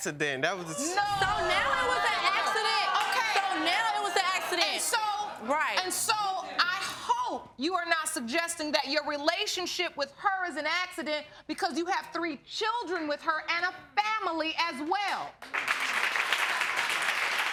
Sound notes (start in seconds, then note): 15.4 audience applauding